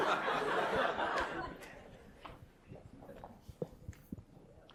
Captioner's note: audience chuckles